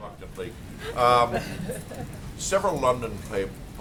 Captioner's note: laughter